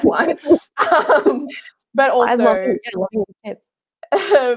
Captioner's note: murmurs